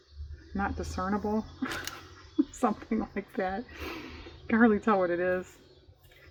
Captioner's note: laughs